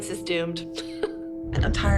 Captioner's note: laughs